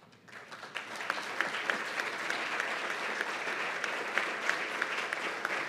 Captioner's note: applause